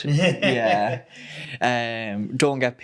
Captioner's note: laughing